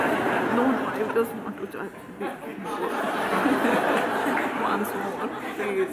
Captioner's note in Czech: smích